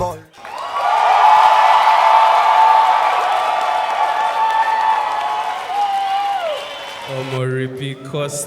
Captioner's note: audience applause